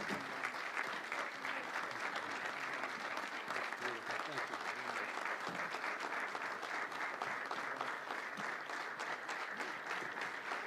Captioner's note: applause